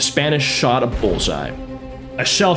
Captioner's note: kaboom!